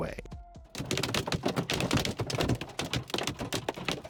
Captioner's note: hail tapping